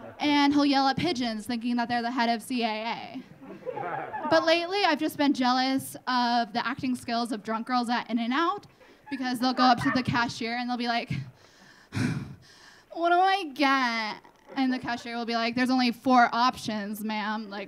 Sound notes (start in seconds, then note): 3.4 audience laughing; 11.4 sighing